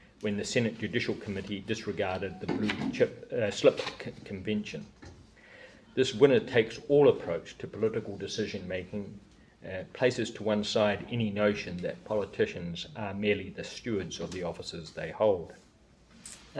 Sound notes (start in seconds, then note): none